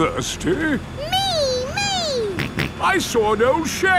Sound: snorts

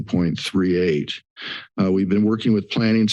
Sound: inhales

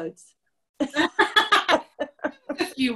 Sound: laughter

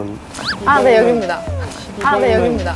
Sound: swoosh

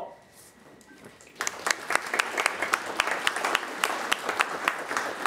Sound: audience applause

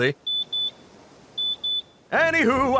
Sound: card beeping

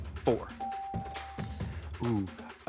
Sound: bell ringing

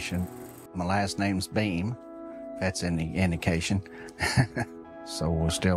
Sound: chuckles

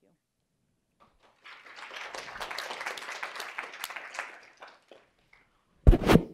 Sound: applause

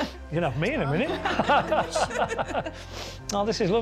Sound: laughing

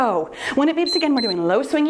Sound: timer beeps

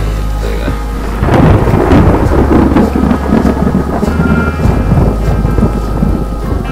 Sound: thunder

